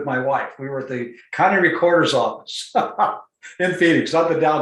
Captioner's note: laughs